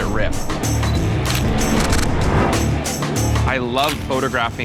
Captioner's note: camera shutter clicking